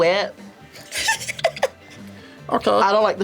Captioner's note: laughs